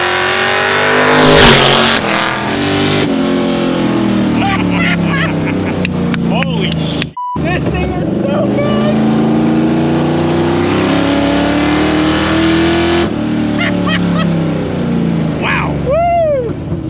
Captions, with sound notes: (friends laughing) Holy (beep). (hands clapping) - This thing is so good. - Wow. - Woo!